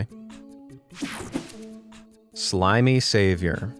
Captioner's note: slide whooshes